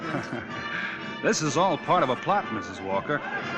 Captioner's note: laughing